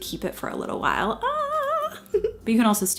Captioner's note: giggles